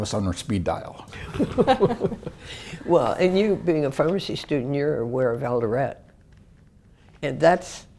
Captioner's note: laugh